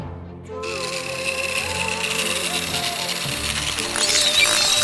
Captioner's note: sound of saw; shrieker noises